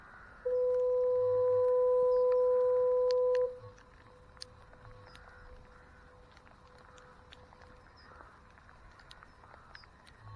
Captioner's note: fog horn sounds & then echos